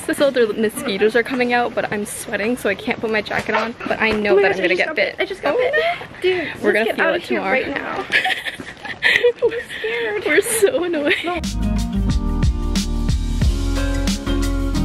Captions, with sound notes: Also the mosquitoes are coming out, but I'm sweating so I can't put my jacket on but I know that I'm gonna get bit. - Oh my God, I just got bit. I just got bit. - Oh no! We're gonna feel it tomorrow. - Dude, let's get out of here right now. (chuckles) - I'm scared. - We're so annoying. (gentle music)